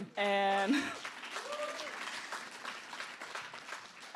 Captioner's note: applause